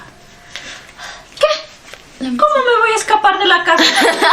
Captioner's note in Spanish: risas